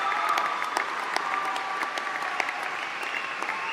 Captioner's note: applause